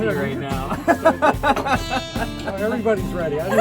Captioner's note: laughs